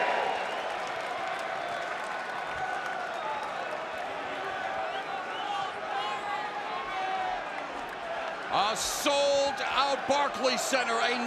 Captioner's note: crowd cheering